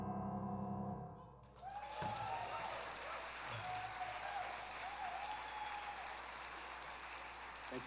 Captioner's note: applause